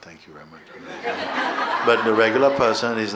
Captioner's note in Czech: smích